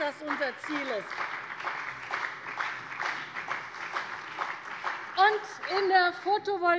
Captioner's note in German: Beifall bei der CDU und dem BÜNDNIS 90/DIE GRÜNEN